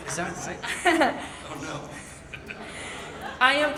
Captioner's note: laughs